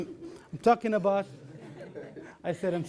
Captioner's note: laughter